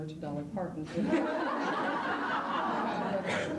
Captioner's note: laughter